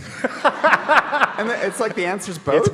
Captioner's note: audience laughing